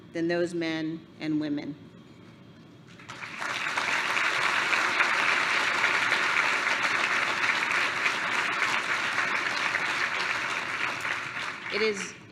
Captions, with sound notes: than those men and women. [APPLAUSE]